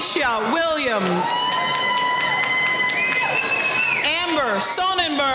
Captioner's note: cheering